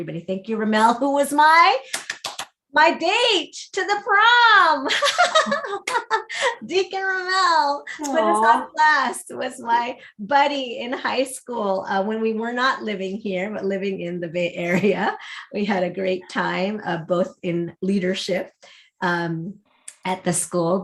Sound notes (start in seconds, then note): 4.8 laughs